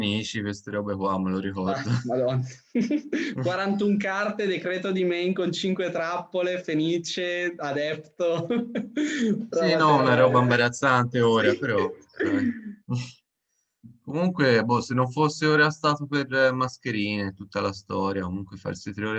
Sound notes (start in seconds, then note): 7.4 laughs